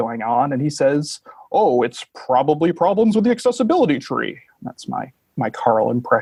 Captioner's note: changing his voice